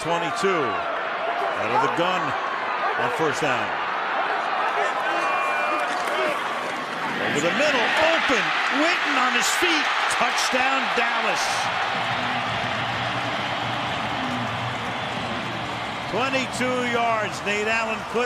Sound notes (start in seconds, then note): 11.9 cheering